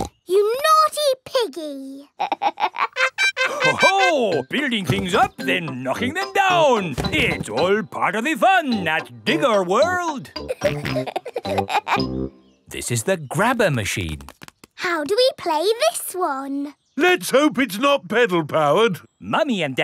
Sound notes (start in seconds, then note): 0.2 snorts; 2.1 laughs; 10.4 peppa and george laughing